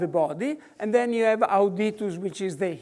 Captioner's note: speaks foreign language